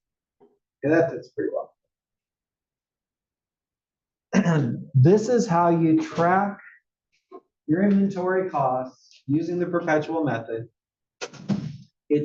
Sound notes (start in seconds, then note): 4.3 cough